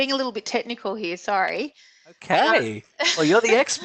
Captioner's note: laughs